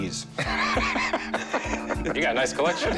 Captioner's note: laughter